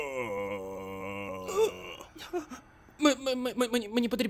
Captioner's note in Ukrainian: Адам верещить